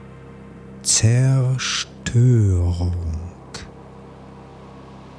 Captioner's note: german